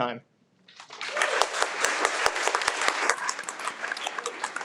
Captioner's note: audience applauds